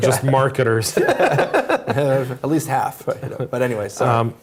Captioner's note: laugh